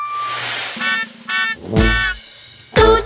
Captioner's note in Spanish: Sonido de Bocina